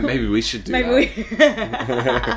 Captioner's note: laughing